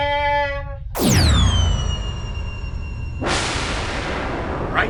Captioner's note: whistle then explosion